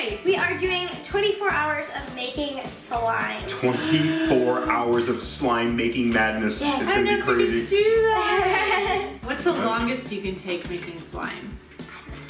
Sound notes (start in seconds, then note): 3.6 gasping; 7.8 kids laughing